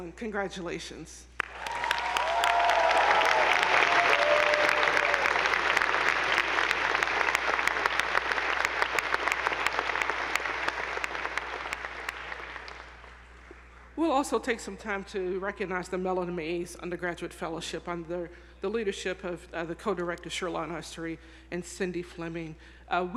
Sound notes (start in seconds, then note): 1.5 attendees applauding; 1.5 audience whooping